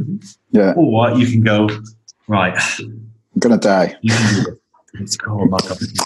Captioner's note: chuckles